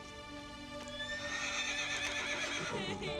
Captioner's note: horse whinnying; Grace laughing